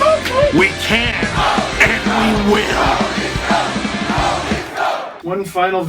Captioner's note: Go leafs Go crowd cheering fades with the photos